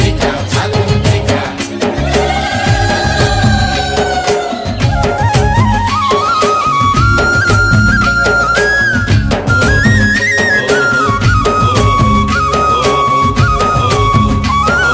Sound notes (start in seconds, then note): 2.0 A traditional sound women obtains from their mouth